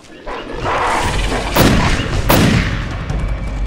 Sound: pow, pow

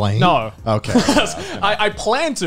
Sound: chuckles

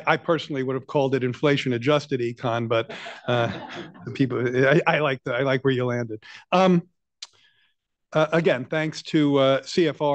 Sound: laughter

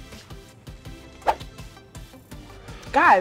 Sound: upbeat music; air whooshes

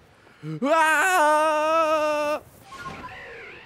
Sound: screams

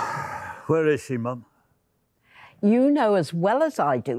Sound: sighing

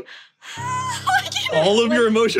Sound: laughs

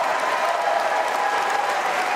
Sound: applause

